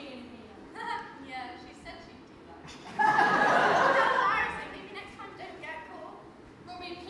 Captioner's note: audience laughs